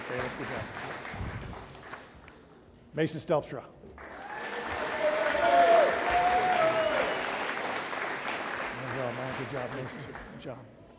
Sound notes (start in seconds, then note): 4.0 audience applauding